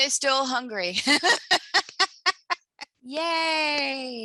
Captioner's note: laughter